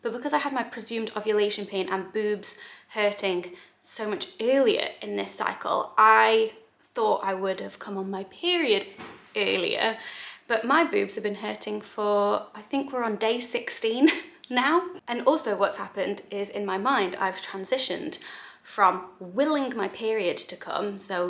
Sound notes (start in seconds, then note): none